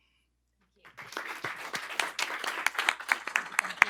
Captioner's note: applause